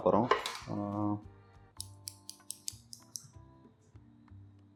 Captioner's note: scissors sound